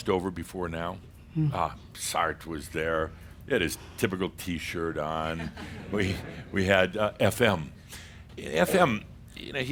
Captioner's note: a few more chuckles